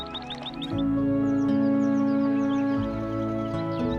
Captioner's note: birds twittering